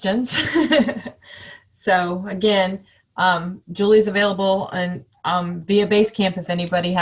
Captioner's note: chuckling